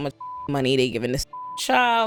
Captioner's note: beep